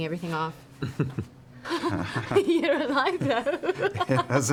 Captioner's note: laughs